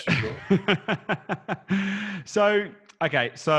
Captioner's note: laughs